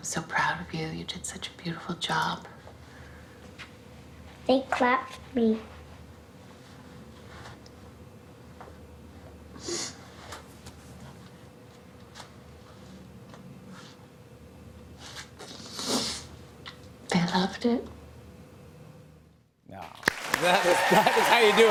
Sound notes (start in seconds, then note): 15.4 sniffles; 20.0 cheers and applause